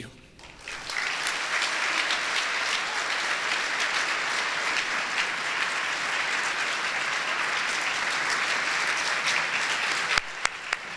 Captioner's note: applause